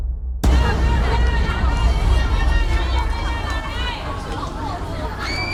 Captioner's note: people shouting and screaming